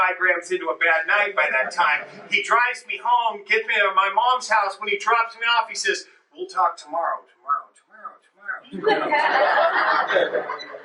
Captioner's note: echo